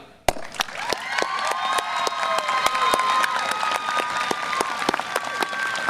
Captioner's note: audience applause and cheer